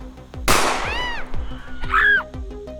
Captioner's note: screams